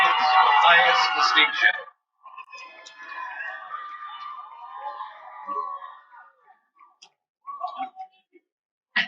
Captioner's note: cheering